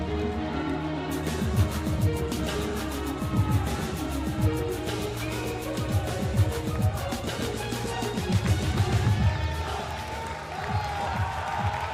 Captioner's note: cheers and applause